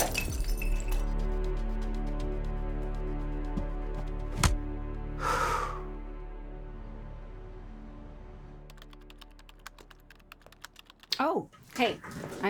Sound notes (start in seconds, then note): 0.1 item shattering; 5.2 Falcon exhaling; 8.7 keyboard keys clacking